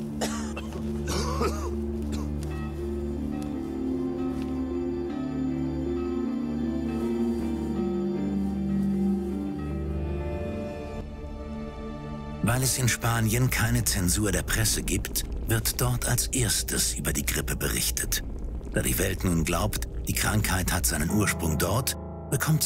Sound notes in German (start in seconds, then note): 2.5 Kirchenglocken läuten; 2.5 Soldaten husten